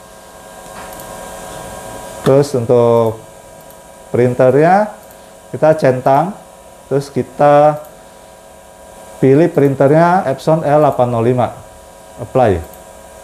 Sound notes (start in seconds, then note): 0.9 clicking sound